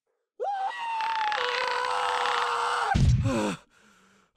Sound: LINK screams

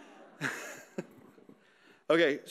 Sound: audience laughing

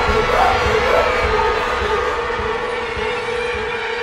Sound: screaming; gasping

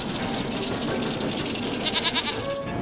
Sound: bleats

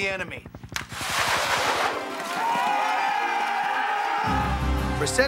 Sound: shouting

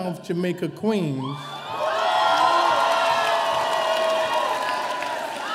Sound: audience cheering

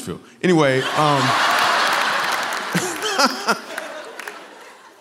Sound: laughter

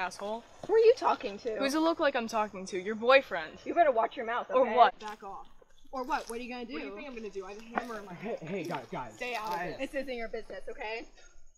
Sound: arguing

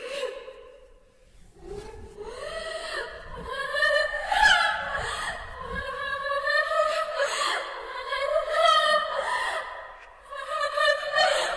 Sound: laughter

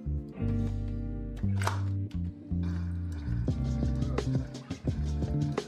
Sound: coffee machine clicks

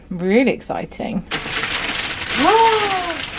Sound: paper rustling

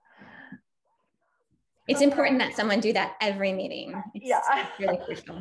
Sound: laugh

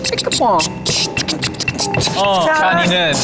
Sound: beatboxing

